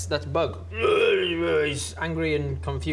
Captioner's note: rwwwrghgargh